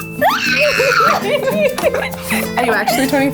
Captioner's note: squeals; laughing